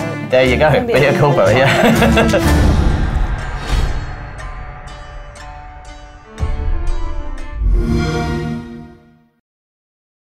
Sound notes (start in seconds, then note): 7.8 xbox sound